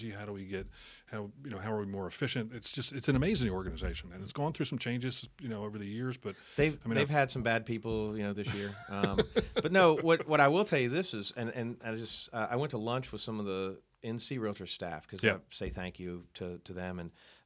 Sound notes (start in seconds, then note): 8.5 laughing